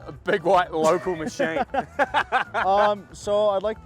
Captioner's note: both laughing